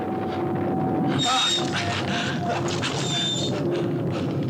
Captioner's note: cart wheels creaking; Albert grunts